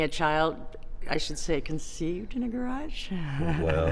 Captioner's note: laughs